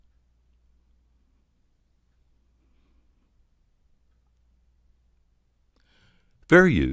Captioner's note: silence